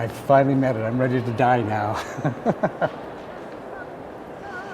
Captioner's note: chuckles